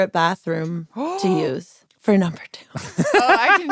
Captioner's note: laughs